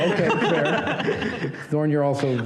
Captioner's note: laughter